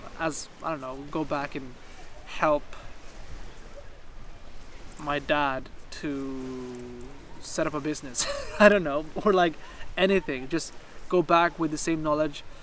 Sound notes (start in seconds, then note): 8.1 laughs